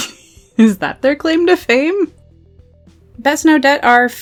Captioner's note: laughs